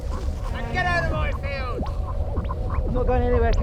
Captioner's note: weird space sounds